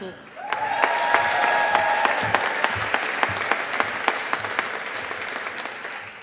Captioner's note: audience applauding